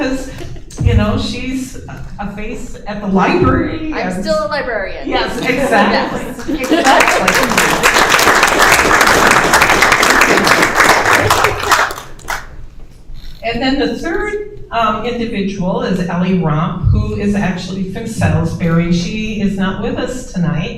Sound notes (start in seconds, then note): 6.4 applause